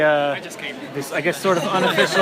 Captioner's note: laughter